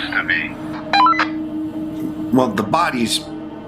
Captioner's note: comm beeping